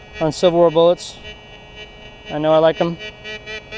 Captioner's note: detector beeps